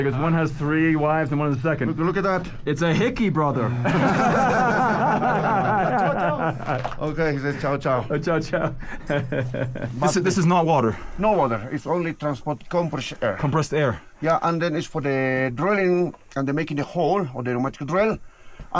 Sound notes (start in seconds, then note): 3.7 everyone laughs; 8.8 laughs